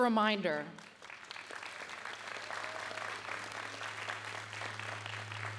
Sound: audience applauding

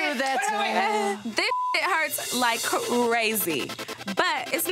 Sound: beep

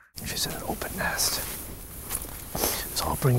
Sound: whispering

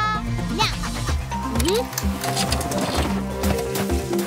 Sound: drone buzzing; clicking; rhythmic music

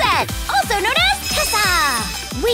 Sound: sparkle

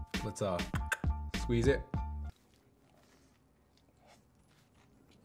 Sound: clicks tongue

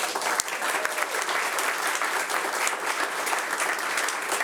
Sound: audience applauding

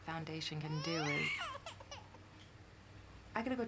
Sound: baby crying

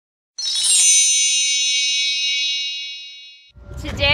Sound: chimes

